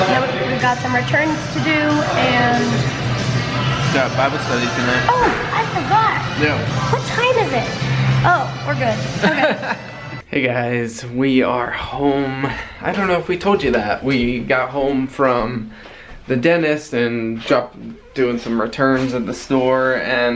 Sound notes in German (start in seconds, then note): 9.1 lachen